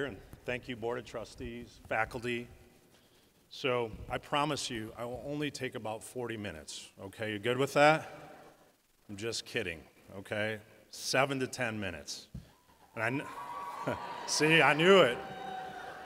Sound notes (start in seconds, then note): 12.9 cheers from audience